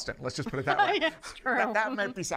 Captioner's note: laughs